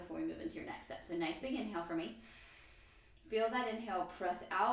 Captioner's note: inhale